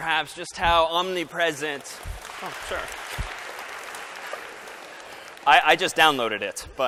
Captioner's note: applause